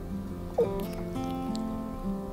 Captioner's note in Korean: 하품